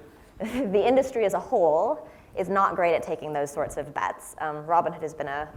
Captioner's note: laugh